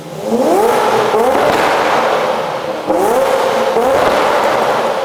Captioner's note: engine roaring gets louder